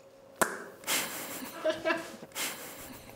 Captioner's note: laughter